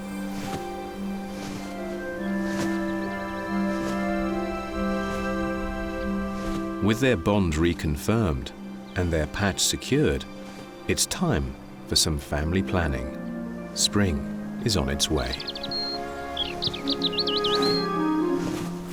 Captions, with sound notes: With their bond reconfirmed and their patch secured, it's time for some family planning. Spring is on its way. [birds singing]